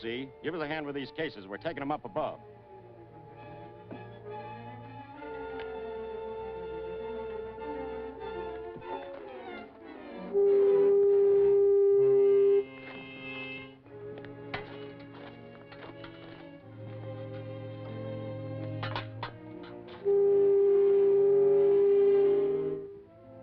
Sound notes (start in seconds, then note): 2.8 dramatic music; 10.0 tool buzzing; 13.4 suspenseful music; 19.8 tool buzzing